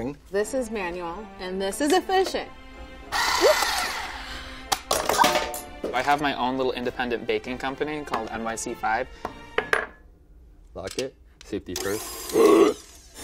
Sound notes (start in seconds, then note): 3.1 whirring; 4.9 clank; 12.6 whirring